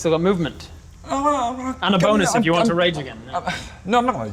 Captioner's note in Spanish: tartamudea